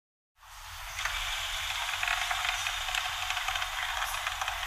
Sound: machine sound

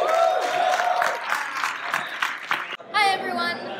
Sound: audience claps and cheers

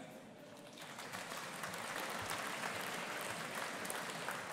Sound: audience applauding

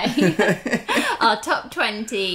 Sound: laughs

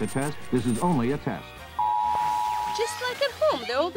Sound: alert blaring

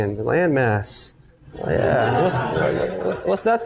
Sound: students laugh

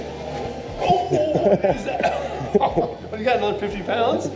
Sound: laughs

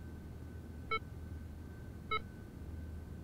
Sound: steady beeping

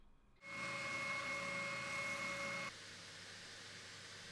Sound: drilling

